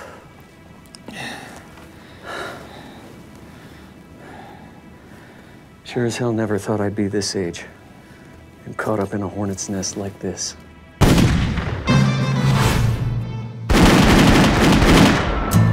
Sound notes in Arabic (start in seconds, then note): 11.0 طلقات نارية; 12.0 موسيقى غربية درامية